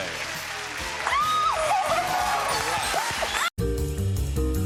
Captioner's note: applause, theme music